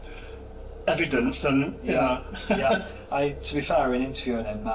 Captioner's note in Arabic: يضحك